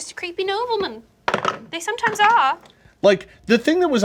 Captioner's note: dice clatter